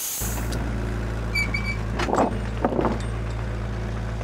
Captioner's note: engine idling